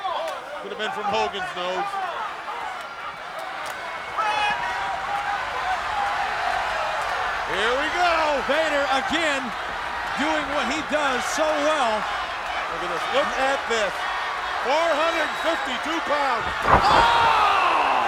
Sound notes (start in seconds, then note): 5.5 audience cheers